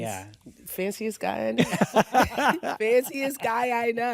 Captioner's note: laughs